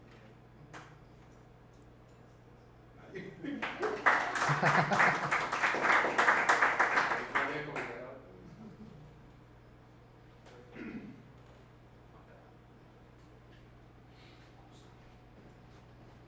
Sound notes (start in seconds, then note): 3.6 applauses